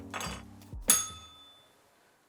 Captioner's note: bell rings